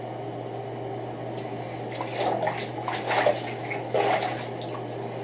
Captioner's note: squishing sound; water swishing